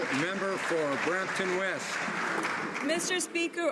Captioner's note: some Applause